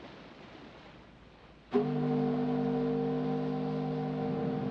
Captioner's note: ship's horn blares